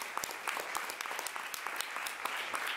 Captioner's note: applause